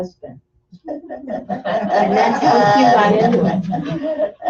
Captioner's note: laughter